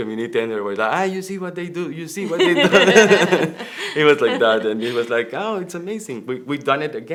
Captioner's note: laughter